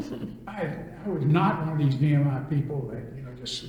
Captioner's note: laughter